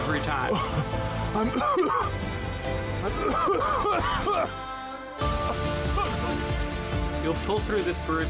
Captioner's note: coughs